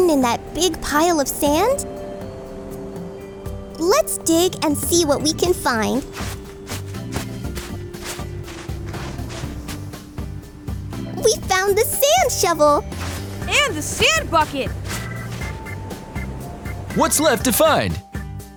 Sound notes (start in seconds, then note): none